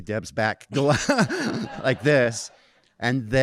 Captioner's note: audience laughing